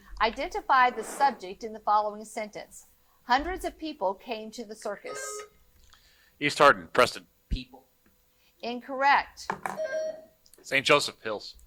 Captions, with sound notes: Identify the subject in the following sentence. Hundreds of people came to the circus. (buzzer buzzing) - East Hardin, Preston. - People. - Incorrect. (buzzer buzzing) - St. Joseph, Hills.